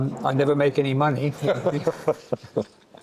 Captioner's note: laughing